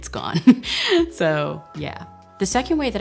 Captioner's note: chuckles